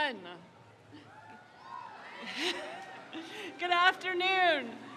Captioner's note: crowd cheers